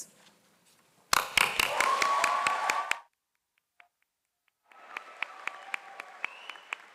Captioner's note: audience applauds